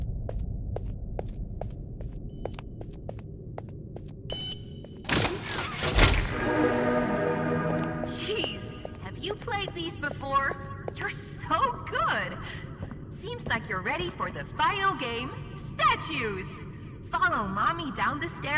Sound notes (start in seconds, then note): 1.1 footsteps; 4.3 beep; 5.1 crashing